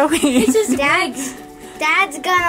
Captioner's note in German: kichert